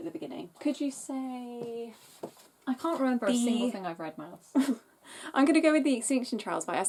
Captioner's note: laughs